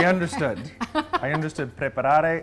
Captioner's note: laughs